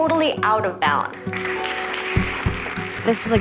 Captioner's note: audience applauding